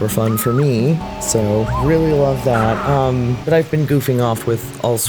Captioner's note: girl screams, robot roars